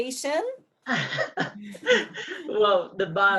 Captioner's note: laughing